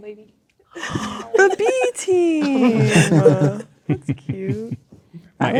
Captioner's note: gasps; players laughing